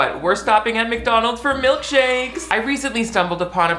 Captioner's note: children cheer